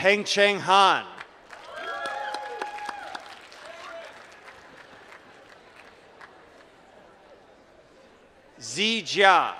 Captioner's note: applause